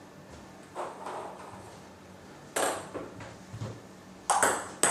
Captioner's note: balls ping pong hitting continues